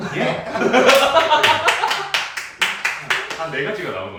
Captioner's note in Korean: 박장대소